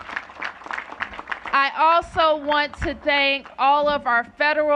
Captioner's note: applause